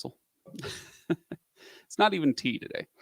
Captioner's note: laughs